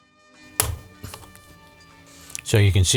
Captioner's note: clicking